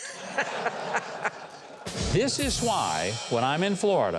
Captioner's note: chuckles; cymbal chimes